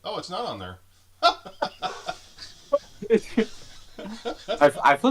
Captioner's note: laughs